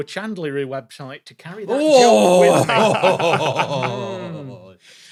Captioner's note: laughs